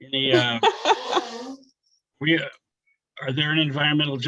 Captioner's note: laughs